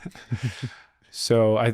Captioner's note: laughs